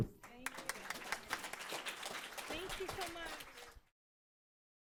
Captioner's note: crowd applauds